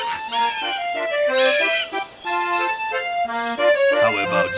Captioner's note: laughs; jaunty music; seagulls calling